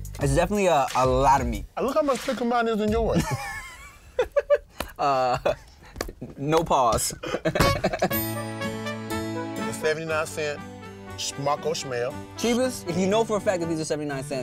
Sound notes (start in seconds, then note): 3.1 laughing; 6.1 orchestral music